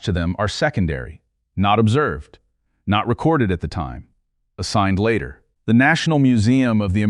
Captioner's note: serious tone